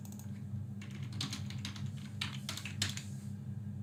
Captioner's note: keyboard clicks